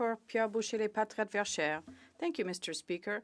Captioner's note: speaking French